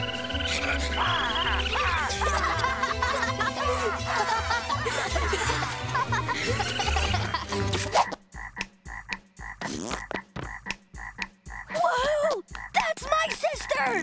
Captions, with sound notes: [laughing] Whoo-hoo! That's my sister!